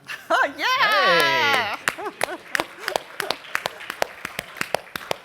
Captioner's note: applause